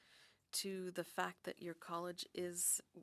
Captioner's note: speaking French